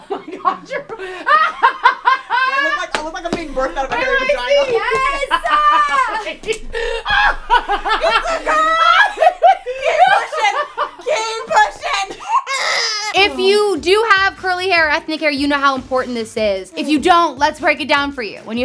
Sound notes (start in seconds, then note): 1.2 laughs; 5.6 laughs; 11.8 baby cries